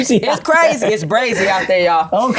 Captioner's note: laughs